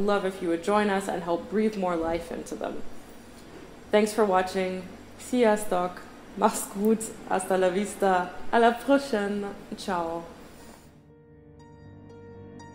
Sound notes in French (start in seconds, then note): 7.5 espagnol